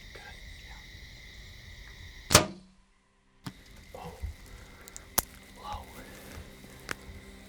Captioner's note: whispering; whispering